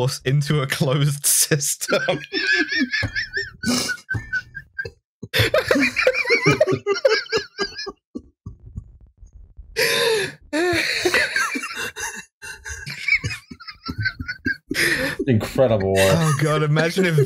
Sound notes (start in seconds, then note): 0.0 laughter; 1.8 helpless weeping; 8.6 breathless from laughter